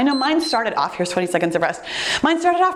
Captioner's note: timer beeps